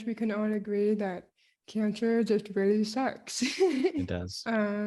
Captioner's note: laughs